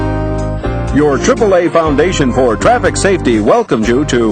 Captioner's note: voiceover